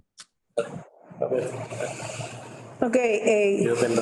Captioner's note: speaks in foreign language